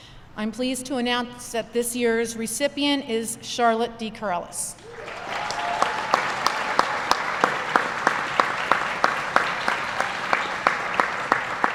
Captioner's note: applause